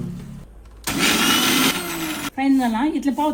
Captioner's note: mixer grinding